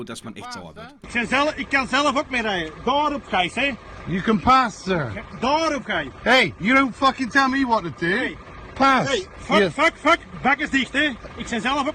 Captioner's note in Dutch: Gesprek in het Nederlands / Engels